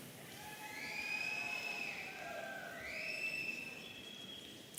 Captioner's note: audience cheering